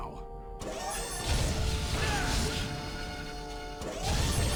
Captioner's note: explosion